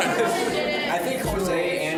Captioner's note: laughter